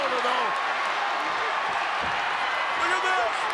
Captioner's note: audience cheers